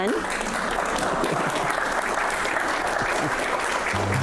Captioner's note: applause